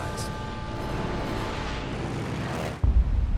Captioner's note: engines whining